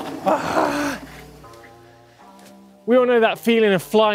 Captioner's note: grunts